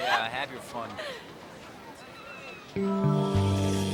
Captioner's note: laughter